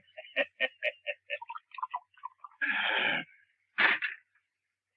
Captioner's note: chuckles lightly